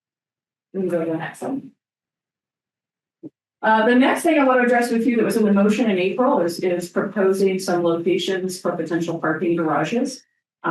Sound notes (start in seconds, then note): none